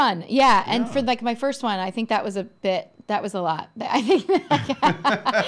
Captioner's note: laughing